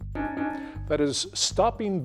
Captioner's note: bell dings